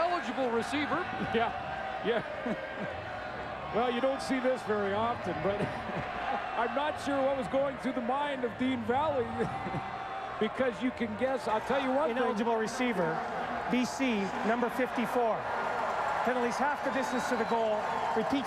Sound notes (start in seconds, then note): 9.4 laughter